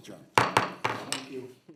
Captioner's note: gavel taps